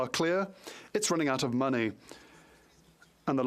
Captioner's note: speaking French